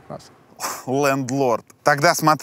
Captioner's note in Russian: прыскает